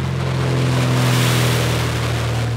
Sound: airplane landing

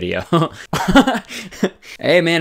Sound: laughing

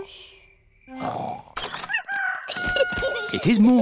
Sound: both snoring; rooster crowing

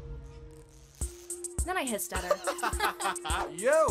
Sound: laughter

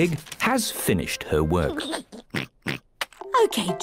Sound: giggles and oinks

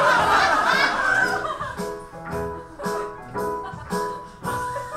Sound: audience laughs

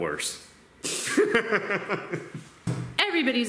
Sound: laughing

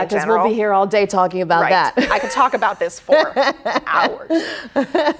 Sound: laughs

